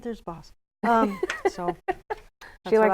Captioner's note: laughing